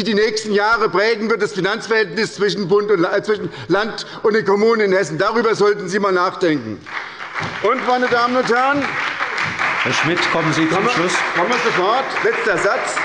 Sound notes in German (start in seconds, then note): 6.8 Beifall bei der SPD